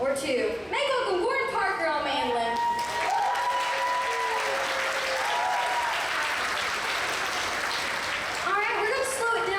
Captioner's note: audience applause